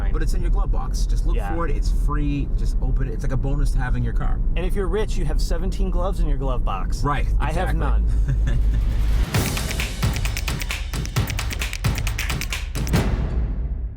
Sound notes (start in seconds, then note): 8.2 laughs; 8.4 exciting music